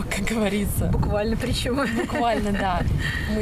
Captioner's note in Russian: смех